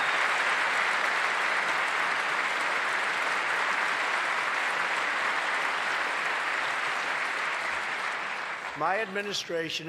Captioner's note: applause